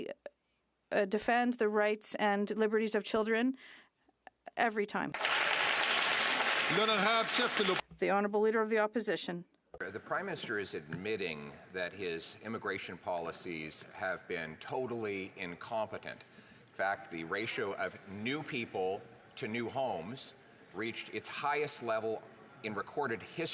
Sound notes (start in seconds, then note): 8.1 some Applause